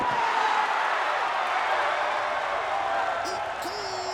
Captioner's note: loud cheering